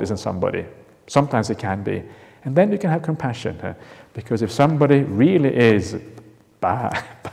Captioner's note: chuckles